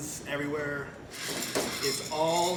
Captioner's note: beans rattle against metal